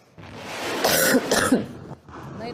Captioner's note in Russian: мария ситтель кашляет